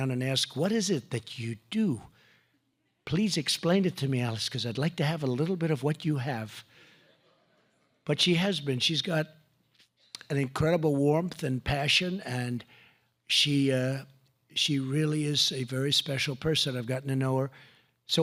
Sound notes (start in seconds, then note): 7.0 laughter